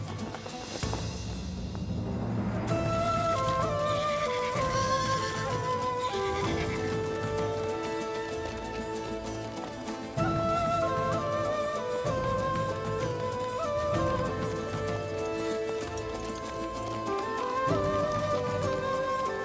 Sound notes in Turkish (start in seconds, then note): 3.6 At kişneme sesi; 8.0 Müzik - Hareketli